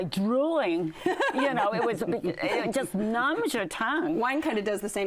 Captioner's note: laughter